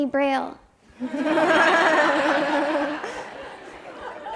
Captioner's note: audience laughs